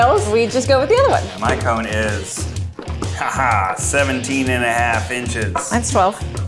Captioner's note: laughs